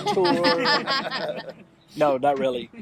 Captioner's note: everybody laughing